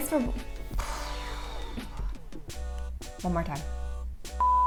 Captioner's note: exhales; beep